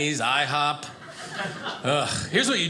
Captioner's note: audience laughing